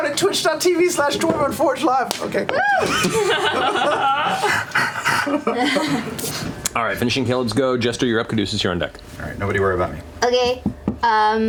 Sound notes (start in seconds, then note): 2.7 laughter; 4.4 panting